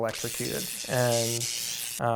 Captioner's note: electricity zapping